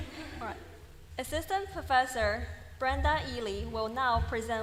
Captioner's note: laughter